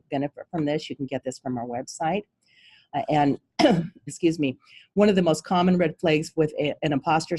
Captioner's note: cough